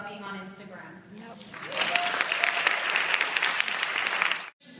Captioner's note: applause